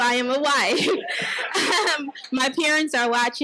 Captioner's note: laughs; audience laughs